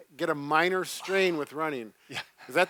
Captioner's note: sighs